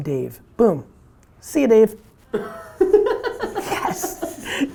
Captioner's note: laughs